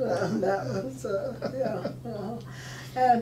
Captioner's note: laughing